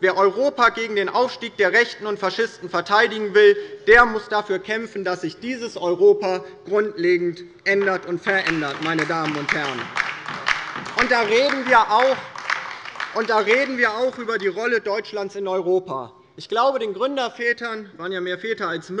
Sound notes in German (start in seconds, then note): 7.8 Beifall bei der LINKEN